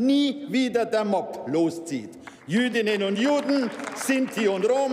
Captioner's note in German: Beifall bei der SPD, der LINKEN und dem BÜNDNIS 90/DIE GRÜNEN